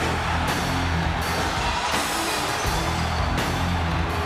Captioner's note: audience cheers